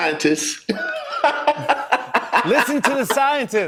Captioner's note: laughter